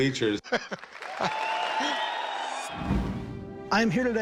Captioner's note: applause and cheering